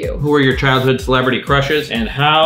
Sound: none

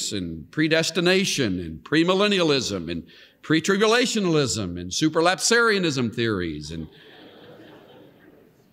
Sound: laughter

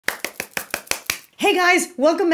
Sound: claps hands

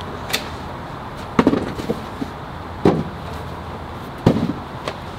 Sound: objects thumping

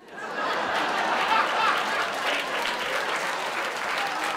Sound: laughing

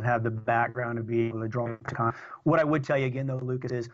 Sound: audio corruption

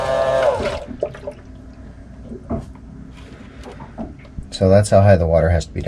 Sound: buzzing

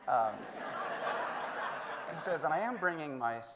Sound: everyone laughing

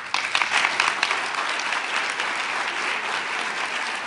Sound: applause

